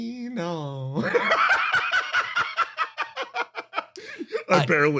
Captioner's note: laugh